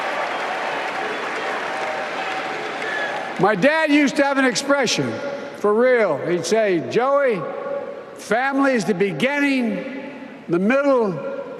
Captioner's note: applause